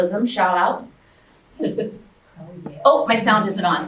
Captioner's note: audience chuckles